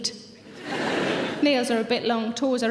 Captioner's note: audience laughing